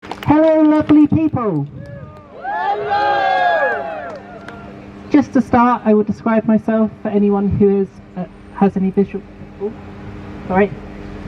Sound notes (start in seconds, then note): 1.8 crowd cheers in response